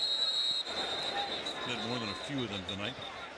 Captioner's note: whistle